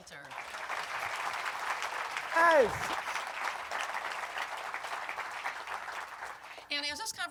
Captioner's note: applause